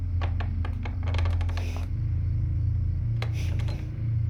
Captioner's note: door squeaking